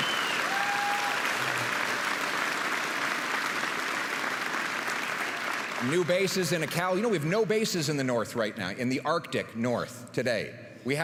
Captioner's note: applause and cheering